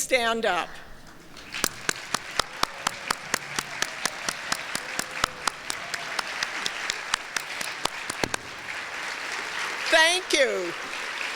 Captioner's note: applause